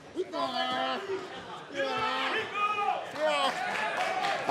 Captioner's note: crowd shouting